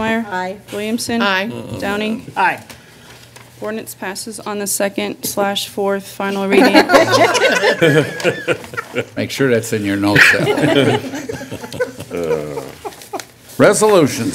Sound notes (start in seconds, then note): 6.5 laughter; 10.1 more laughter